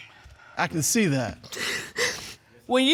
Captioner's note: crying